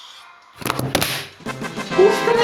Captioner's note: c l a p!